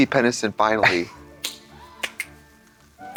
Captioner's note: Katya cheeps and claps